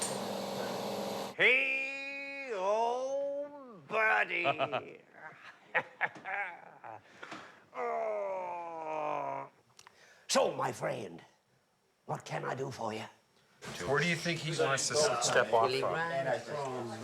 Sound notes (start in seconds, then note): 1.3 laughing; 7.7 groaning